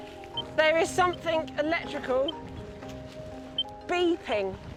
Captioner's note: electrical beeping